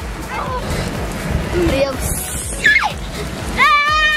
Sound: girls giggling

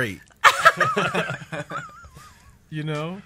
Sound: laughs

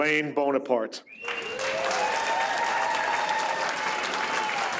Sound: audience applauds

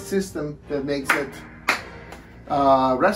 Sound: claps hands

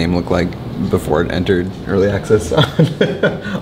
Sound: laughing

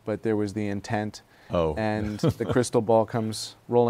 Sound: laughs

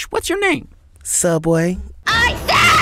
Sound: voiceover

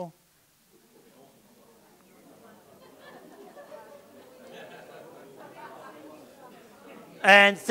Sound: audience discussion

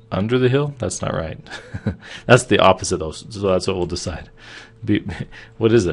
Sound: laughing

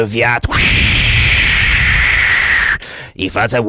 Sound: whoosh

